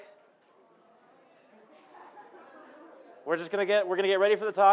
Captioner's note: murmuring